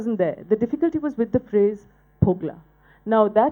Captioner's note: speaking bengali